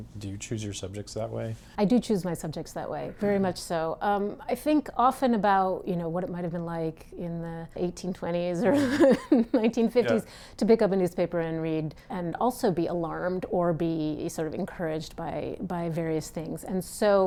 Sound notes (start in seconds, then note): 8.7 laughs